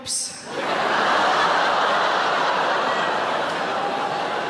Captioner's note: audience laughing